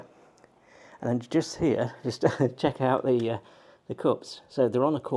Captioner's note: chuckles